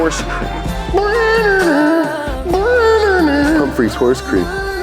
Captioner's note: imitates music